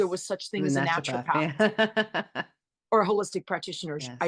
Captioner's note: chimes in on the word naturapath simultaneously and chuckles